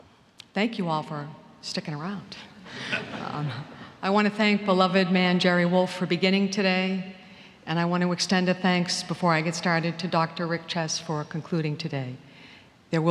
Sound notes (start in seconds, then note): 2.8 laughter